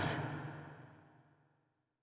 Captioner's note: silence